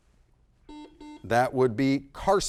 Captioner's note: buzzer blaring